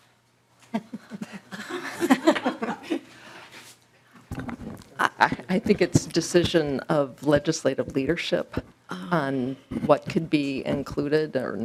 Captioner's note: laughter